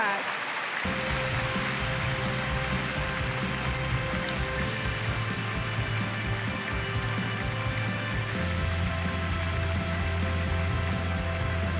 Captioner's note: applause